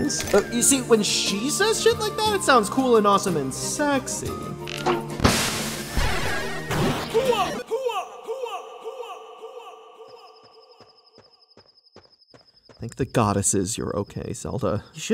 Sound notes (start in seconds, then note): 10.2 nature ambience